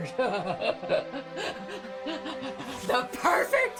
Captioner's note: Ramona laughs